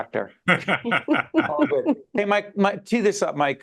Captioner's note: laughing